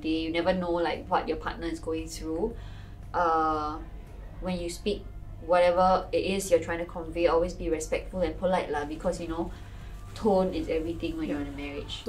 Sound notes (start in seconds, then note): none